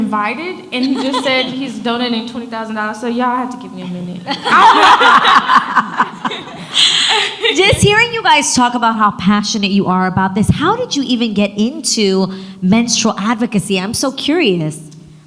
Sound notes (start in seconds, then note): 4.3 audience laughs; 4.3 laughs